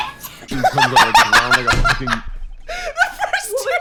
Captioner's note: laughter